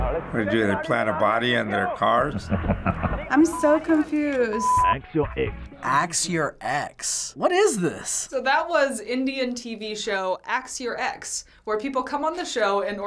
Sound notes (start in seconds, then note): 4.4 voice-over